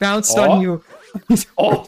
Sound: giggle

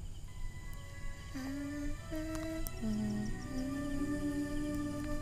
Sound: humming melodically

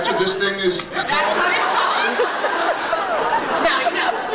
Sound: laughs

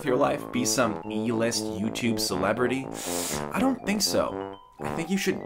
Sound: sucks teeth

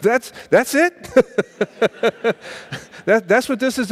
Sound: laughing

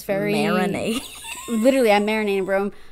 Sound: wheeze laugh

